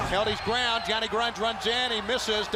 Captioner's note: crowd cheering